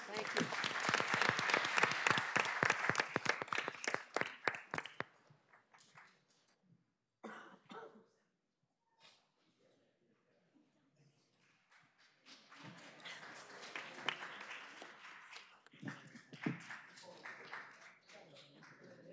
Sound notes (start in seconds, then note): 4.3 applause